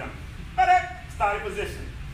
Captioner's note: enthusiastic shout